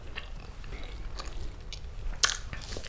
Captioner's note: chews loudly